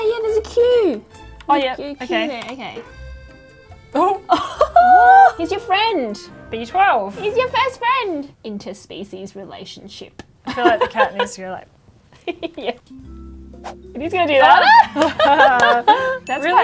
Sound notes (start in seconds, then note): 4.0 both laugh; 10.0 laughs; 12.5 laughs; 13.4 whoosh; 14.5 both laugh